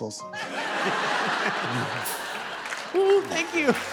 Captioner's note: laughter